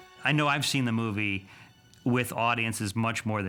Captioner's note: none